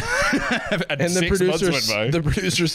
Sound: laughs

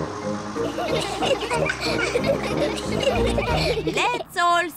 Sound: all giggle

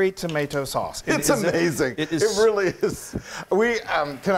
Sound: laugh

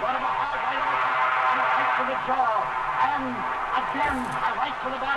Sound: static buzzing

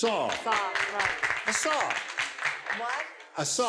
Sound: scattered applause

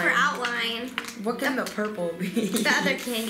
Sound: laughing

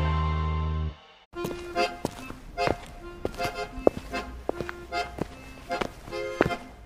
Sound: footsteps

